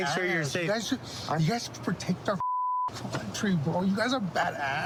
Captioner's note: beep